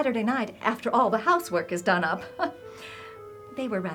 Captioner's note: chuckles